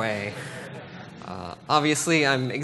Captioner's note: laughter